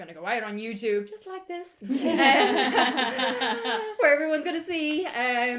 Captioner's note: laughter